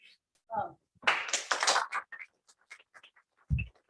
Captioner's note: applause